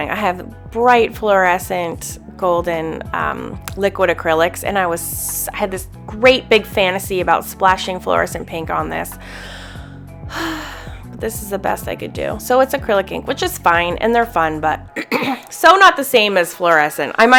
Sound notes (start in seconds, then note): 10.2 sighs